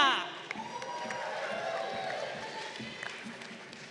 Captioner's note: crowd cheering